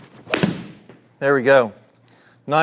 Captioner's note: club clapping ball